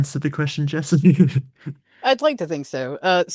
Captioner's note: laughs